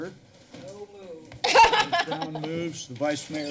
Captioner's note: laughter